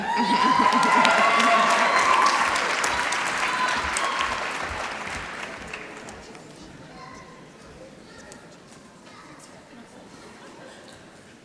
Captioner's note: applause